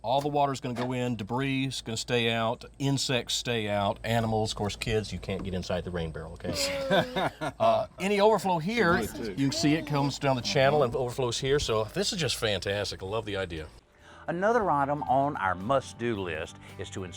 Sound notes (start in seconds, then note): 6.5 laughs; 6.5 groans